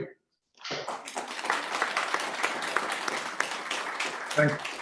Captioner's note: applause